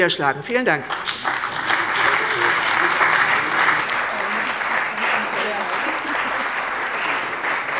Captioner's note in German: Beifall bei der CDU und dem BÜNDNIS 90/DIE GRÜNEN